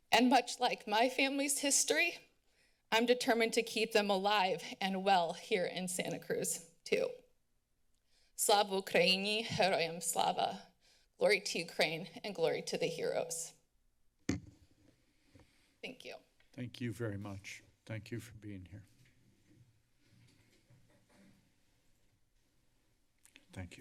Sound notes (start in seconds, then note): 8.3 foreign language; 14.3 mic thump; 19.4 silence